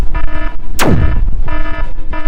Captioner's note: zap